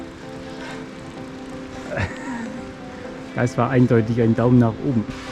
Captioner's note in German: lacht